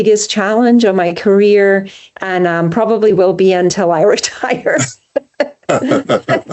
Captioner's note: laughs